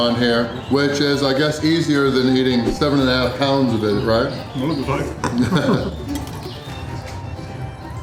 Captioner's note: laughter